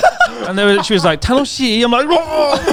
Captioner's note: laughs; speaking Japanese; murmuring